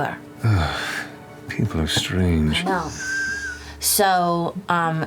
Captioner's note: sighs